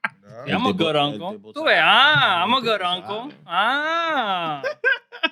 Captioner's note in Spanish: Hablando en idioma extranjero; Riendo